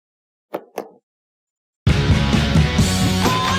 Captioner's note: claws thudding